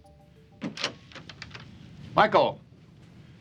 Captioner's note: door opens